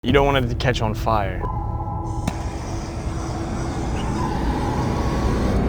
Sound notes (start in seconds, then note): 2.0 flame gas whirring; 4.0 suspenseful music